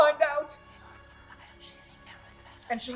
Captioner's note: eerie whispers